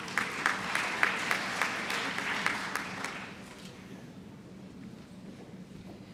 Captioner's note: applause